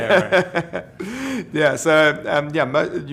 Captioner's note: laughing